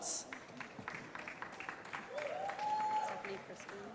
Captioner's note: applause